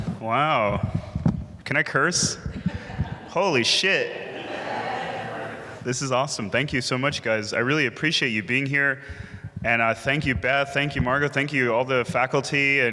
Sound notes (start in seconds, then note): 4.3 audience laughing